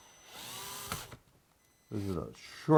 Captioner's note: drilling